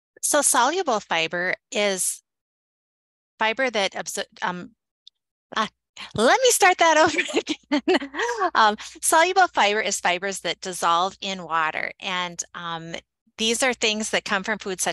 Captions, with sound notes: - So soluble fiber is fiber that, ah. Let me start that over (laughs) again. Soluble fiber is fibers that dissolve in water. And these are things that come from foods